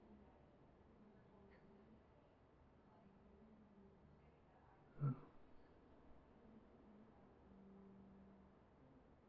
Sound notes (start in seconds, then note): 5.0 murmur